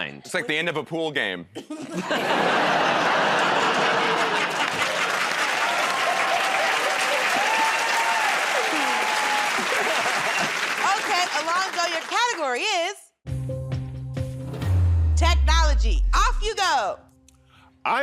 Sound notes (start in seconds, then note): 1.6 laughter; 6.8 cheers and applause